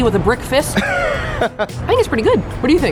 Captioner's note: laughs